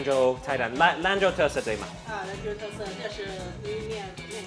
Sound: speaks in Chinese

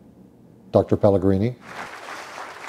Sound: applause

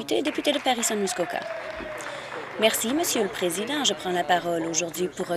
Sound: applause

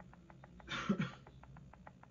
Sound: coughing

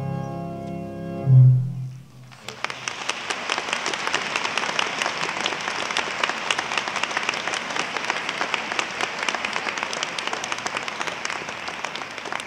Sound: applause

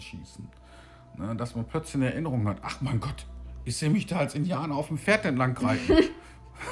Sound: both laugh

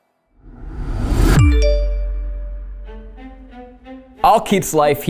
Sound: phone chiming

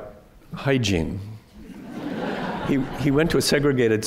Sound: laughter

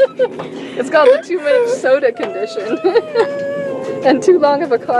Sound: laughs

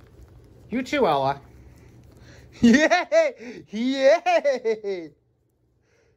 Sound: Ella laughs and giggles as she humps Ava

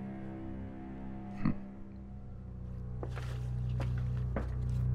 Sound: Charlie grunts

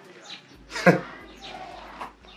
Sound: chuckles

